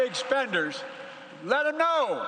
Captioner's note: applause